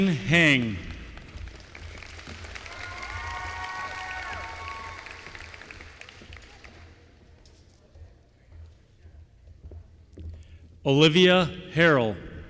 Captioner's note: applause